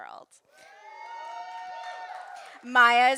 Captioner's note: audience cheering and applauding